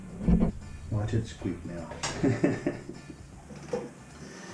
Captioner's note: laughs